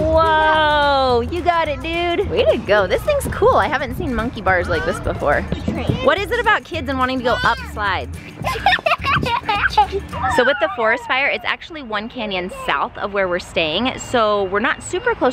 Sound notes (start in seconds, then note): 8.4 laughing